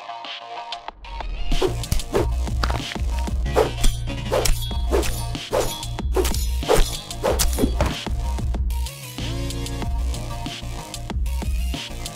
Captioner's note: bones breaking